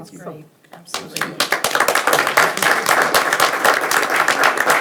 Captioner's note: audience applauds